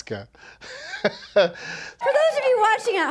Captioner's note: laughing